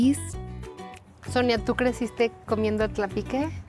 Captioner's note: speaking Spanish